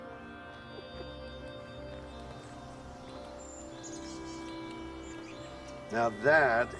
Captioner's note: birds chirping